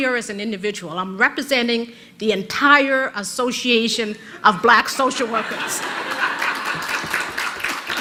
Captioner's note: rires/applaudissements de l'auditoire